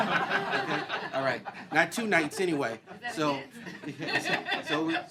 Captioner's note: laughter